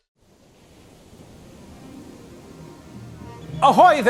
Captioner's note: wind whooshing softly; soft adventurous music